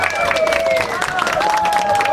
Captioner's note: cheering; clapping